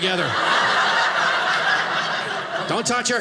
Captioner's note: audience laughing